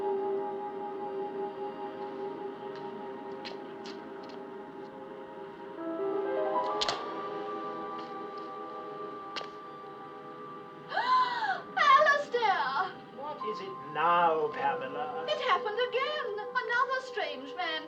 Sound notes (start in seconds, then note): 10.9 woman Gasps